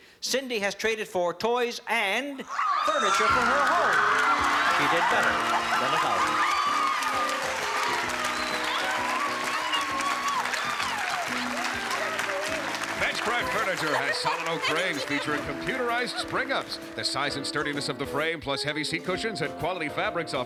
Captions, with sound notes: Cindy has traded for toys and furniture for her home. She did better than $1,000. - [SCREAMING] I can't believe it. - Benchcraft furniture has solid oak frames, featuring computerized spring-ups. The size and sturdiness of the frame, plus heavy seat cushions and quality fabrics,